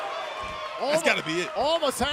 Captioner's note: crowd cheering